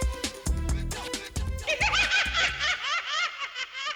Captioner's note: laughing